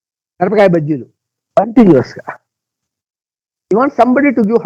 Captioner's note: speaking in Telugu